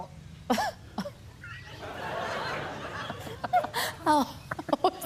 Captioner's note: chuckles; laughter